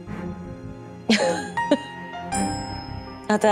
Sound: laughs

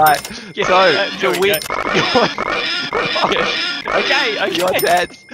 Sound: cash register and pig screeching goes nuts; laughing

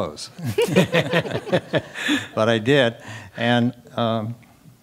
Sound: laugh

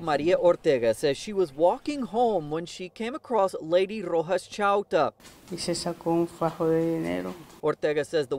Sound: speaking spanish

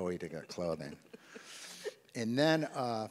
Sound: chuckles

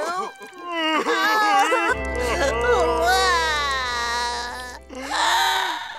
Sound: crying

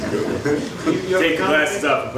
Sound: audience laughs

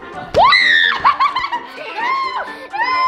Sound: shouting

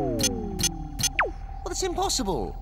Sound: game powering down

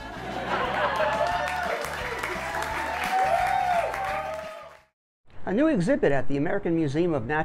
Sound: audience laughing and cheering

